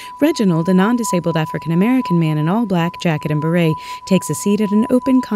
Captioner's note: delicate ringing from wine glass rims being rubbed